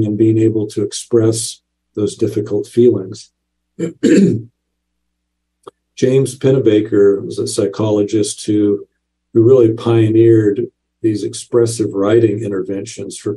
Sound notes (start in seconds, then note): 3.8 clears throat